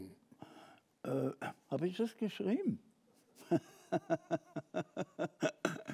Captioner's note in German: Gelächter